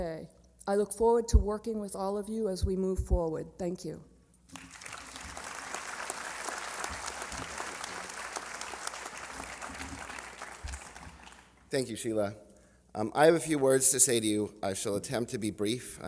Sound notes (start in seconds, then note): 7.8 applause